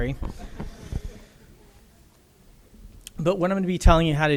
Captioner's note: audience laughter